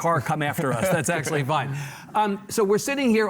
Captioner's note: laughs